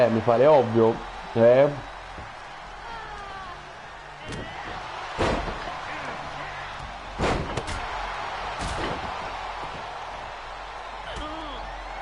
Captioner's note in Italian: Applauso